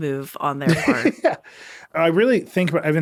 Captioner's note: laughing